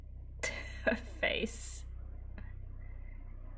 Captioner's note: laughs